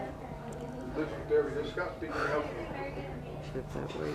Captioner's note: indistinct background chatter